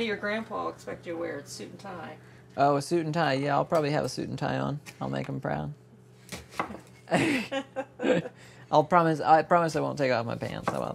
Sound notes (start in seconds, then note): 7.0 both laughing